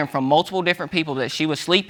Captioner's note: none